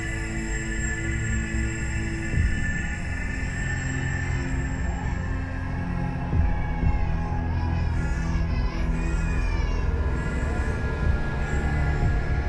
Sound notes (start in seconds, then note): 7.6 sound of babies crying